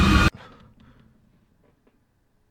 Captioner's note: panting